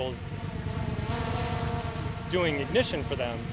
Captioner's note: motor buzzing